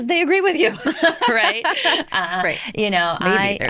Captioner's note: laughter